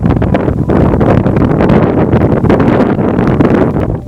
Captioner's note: wind blowing